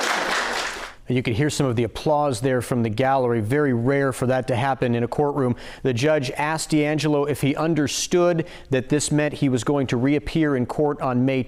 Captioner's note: applause